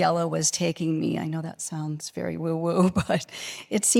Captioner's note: laughs